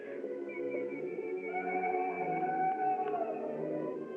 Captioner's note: shrill Cry In Distance